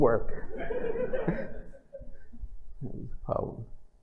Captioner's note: laughter